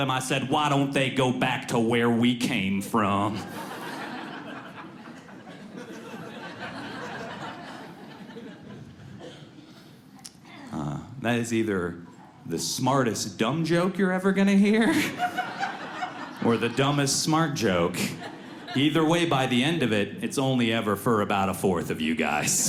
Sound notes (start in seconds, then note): 3.2 audience laughs softly; 22.4 audience laughs